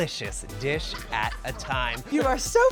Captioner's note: guest laughs